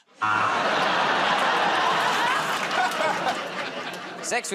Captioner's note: laughter, buzzer